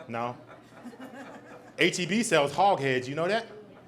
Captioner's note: audience laughs; audlaience ughs